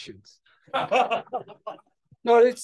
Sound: laughter

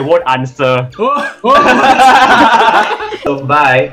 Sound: laughs

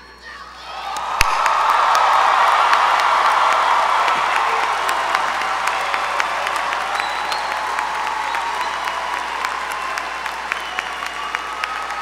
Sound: applause

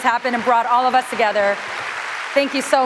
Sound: applause

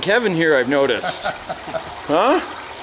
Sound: laughing

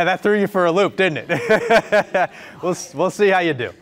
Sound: laughing

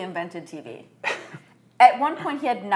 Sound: chuckles

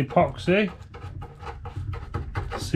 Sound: footsteps

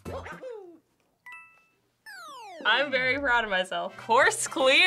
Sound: tink, descending blip

